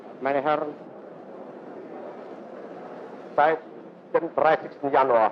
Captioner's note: speaking foreign language